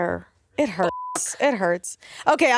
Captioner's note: beep